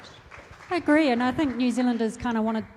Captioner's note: applause